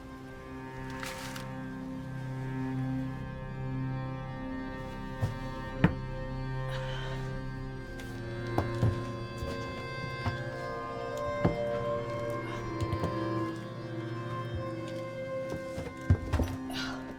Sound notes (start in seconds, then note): 3.7 suspenseful music continues; 6.6 Claire sighs; 13.5 suspenseful music continues